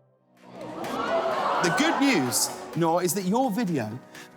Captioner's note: kids gasping